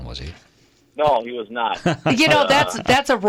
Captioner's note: laughing